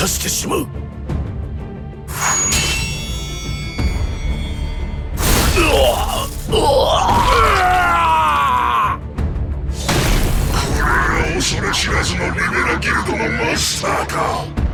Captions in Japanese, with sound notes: [うめき声] [叫び声] これが恐れ知らずのリベラギルドのマスターか。くだらえ。